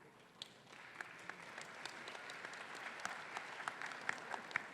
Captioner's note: audience applauding